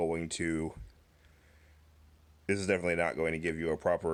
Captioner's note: awkward pause